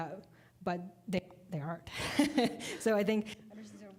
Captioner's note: laughing